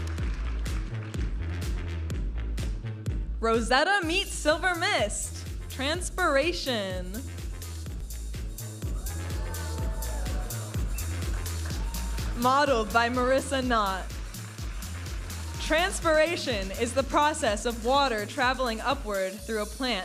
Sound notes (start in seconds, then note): 0.1 vibrant music; 7.9 vibrant music; 8.9 audience applauding and cheering